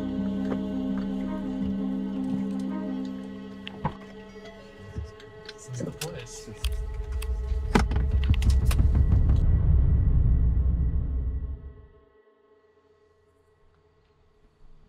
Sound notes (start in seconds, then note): 4.6 muttering